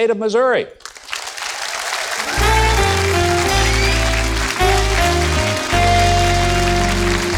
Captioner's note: audience applauds; jazz music